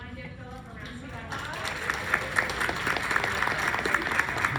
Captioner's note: clapping